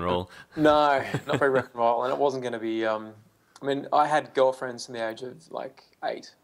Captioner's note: laughs